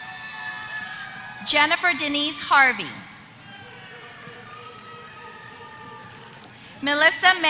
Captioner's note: applause; applause